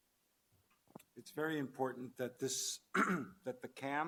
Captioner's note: clears throat